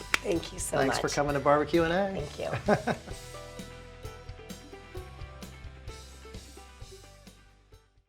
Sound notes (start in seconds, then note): 2.9 laughs; 3.7 upbeat country rock music